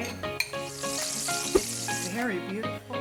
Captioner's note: pan sizzling